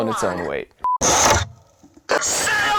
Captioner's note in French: microphone frappant la boîte